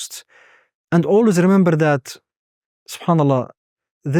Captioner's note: speaking Arabic